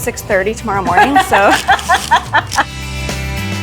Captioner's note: laughing; upbeat music